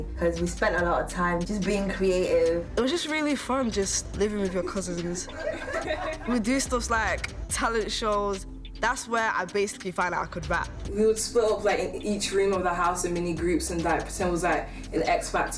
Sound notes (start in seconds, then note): 5.2 laughing